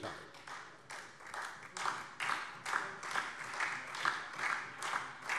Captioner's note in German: Beifall DIE LINKE, SPD und Freie Demokraten